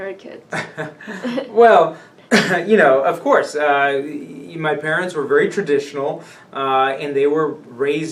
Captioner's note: laughs